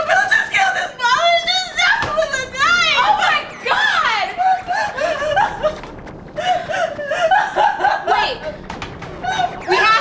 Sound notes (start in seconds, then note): 6.2 crying